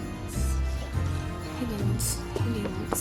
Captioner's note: whispering to self